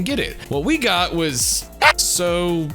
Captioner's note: screams!